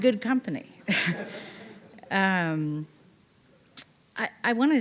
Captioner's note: audience laughing